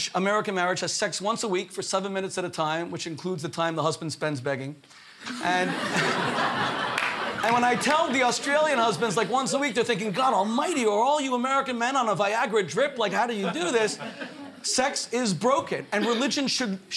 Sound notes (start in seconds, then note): 7.6 laughter